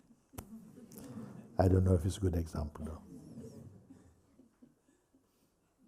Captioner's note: laughter